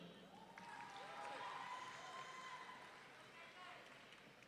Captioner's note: audience cheering